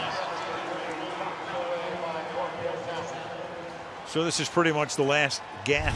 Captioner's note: pa announcement